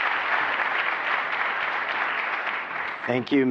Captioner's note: applause